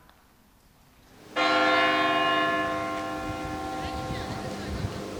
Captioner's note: church bell rings